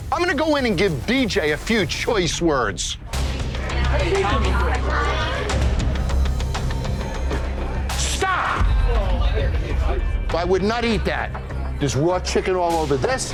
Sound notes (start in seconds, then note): 3.3 dramatic suspenseful music; 4.5 customers chattering